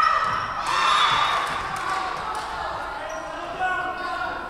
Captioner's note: whistle blowing